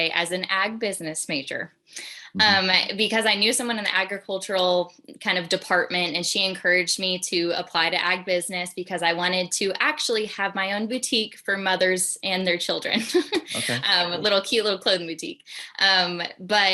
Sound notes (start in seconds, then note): 13.0 laughs